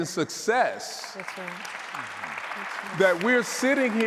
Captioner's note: audience applauding